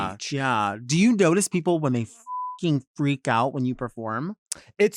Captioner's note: beep